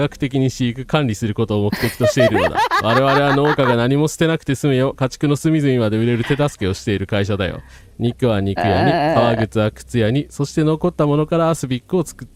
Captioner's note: laughter